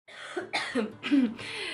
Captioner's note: coughs